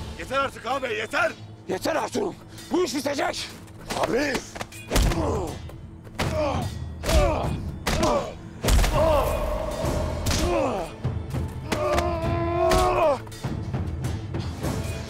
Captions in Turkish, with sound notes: Yeter artık ağabey. Yeter! Yeter Ertuğrul. Bu iş bitecek. Ağabey. (Boğuşma sesleri) (Kılıç sesleri)